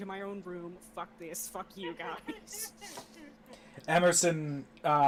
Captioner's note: laughing